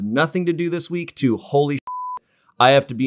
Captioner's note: beep sound